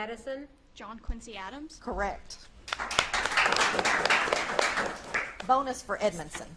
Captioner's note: audience claps